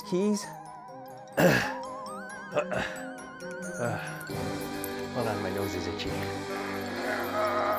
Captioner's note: breathes heavily; grunts